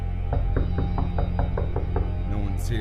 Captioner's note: knocking on the door